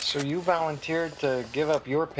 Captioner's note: camera shutter clicking